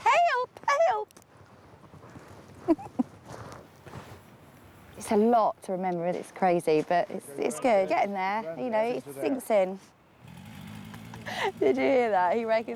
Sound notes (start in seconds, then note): 2.6 giggles; 11.0 laughs